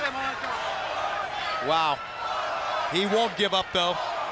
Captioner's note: crowd cheering